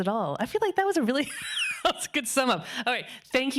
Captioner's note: laughing